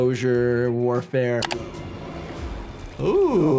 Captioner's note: mouse clicking; suspenseful music